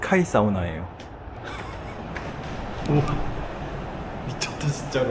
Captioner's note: unstoppable laughter